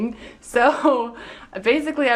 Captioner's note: laughing